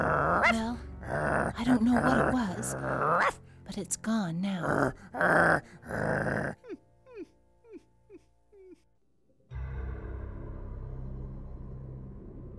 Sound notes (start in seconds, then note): 0.0 growling and barking; 4.5 growling; 8.6 instrumental music